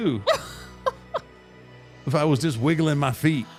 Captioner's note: laughs